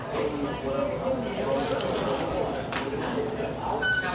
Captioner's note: people chattering